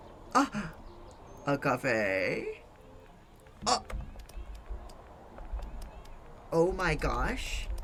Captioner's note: gasps